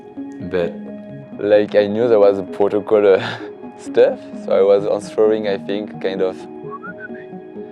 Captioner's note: whistles